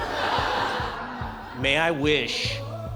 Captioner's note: laughter